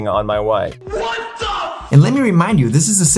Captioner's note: 'what the--?!' sound